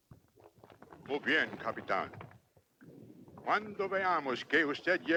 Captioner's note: Victorio speaks Spanish